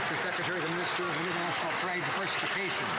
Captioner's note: some Applause